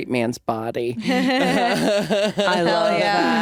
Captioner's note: laughing